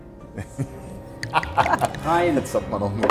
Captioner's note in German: Gelächter